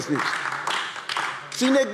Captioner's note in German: Beifall AfD